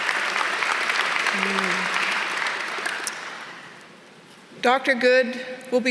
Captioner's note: applause